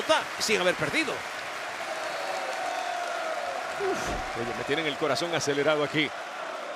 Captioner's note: applause